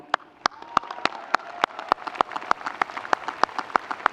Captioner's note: audience cheering